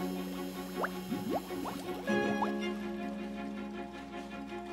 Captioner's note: bubbles popping